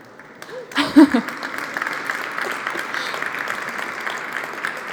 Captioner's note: applause